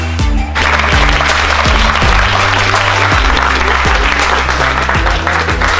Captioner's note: students clapping